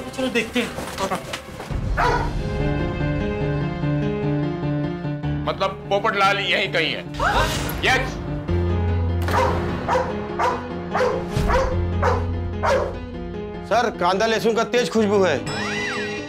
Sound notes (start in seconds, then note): 1.9 dog barks; 9.2 dog barks